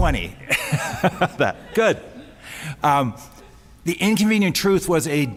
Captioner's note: laughs